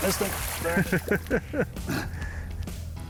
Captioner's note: laughs